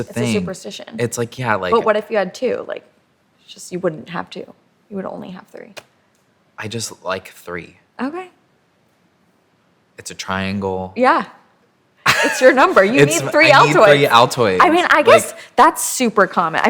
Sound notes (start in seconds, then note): 12.1 laughs